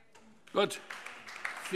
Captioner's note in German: Beifall SPD